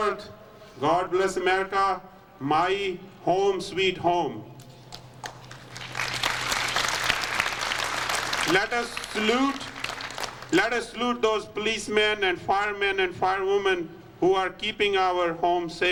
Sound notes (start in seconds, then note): 4.9 applause